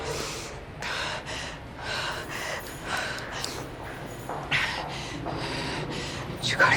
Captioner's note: heavy breathing